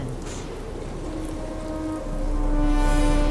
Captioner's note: wind raging